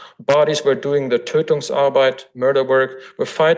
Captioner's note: foreign language